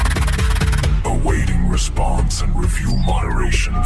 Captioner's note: robotic system announcer